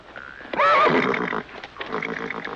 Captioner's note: horse neighing